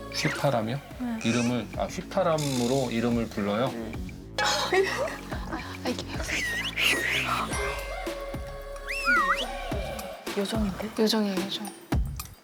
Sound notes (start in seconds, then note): 4.4 whistling?; 6.3 whistle